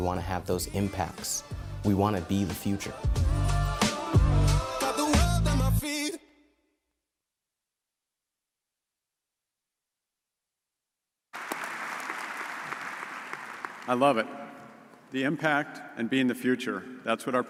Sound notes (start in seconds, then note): 11.3 audience applauds